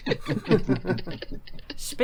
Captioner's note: laughter